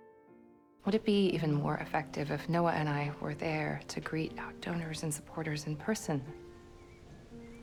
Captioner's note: voiceover